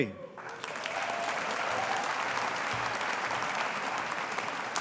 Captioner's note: audience applauding